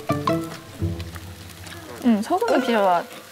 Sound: chewing

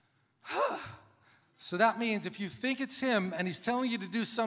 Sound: exhales sharply

